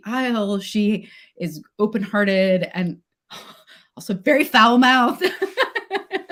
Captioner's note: laughs